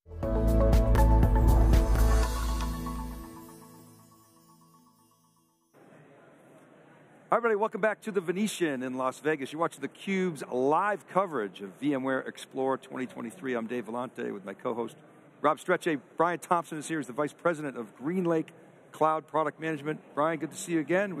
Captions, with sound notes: (gentle upbeat music) (graphics chiming) (people chattering) >> Hi everybody, welcome back to The Venetian in Las Vegas. You're watching theCube's Live coverage of VMware Explore 2023. I'm Dave Vellante with my co-host Rob Strechay. Bryan Thompson is here, he's the Vice President of GreenLake Cloud Product Management. Bryan, good to see you again.